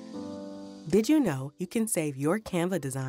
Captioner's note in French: Voix off